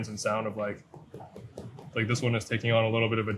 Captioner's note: fruit thudding